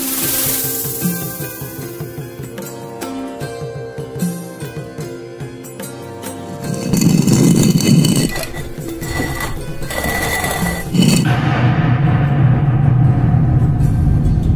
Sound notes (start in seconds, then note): 0.0 snake hisses; 6.5 stone slab moving; 11.7 slab falls